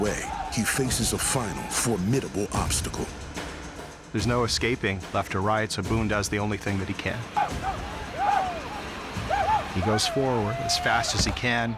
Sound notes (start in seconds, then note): 7.5 shawnee yelling